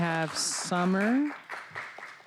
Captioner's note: applause